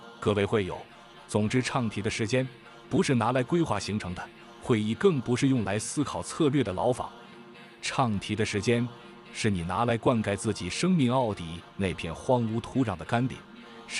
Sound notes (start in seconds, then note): 2.0 chanting; 8.3 chanting